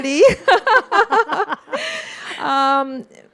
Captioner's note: both laughing